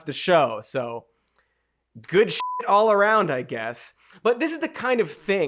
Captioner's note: beeps